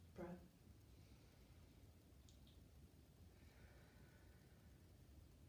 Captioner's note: breathing deeply